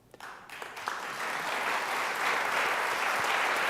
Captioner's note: applause